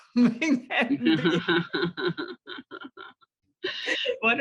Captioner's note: laughter